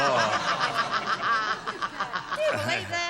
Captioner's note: laughter